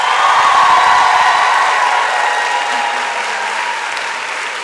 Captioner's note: applause and cheering